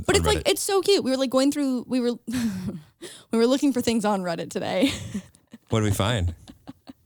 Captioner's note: laughs